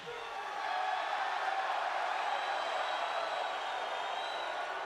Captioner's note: audience cheering